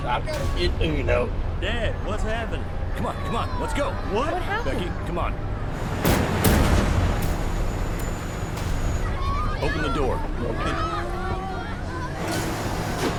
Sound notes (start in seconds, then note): 6.0 gun firing; 9.0 children chattering